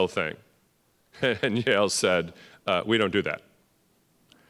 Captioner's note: laughing